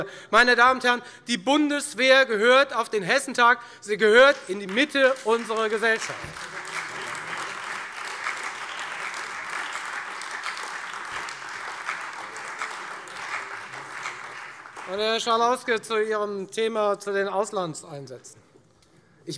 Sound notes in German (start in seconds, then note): 6.2 Beifall